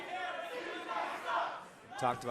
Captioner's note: fans chanting